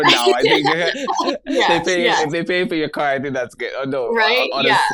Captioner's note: laughs